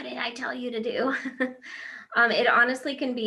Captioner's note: laughing